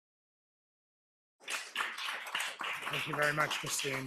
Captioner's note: applause